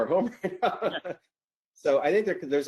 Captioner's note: laughs